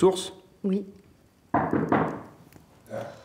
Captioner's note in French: On frappe à la porte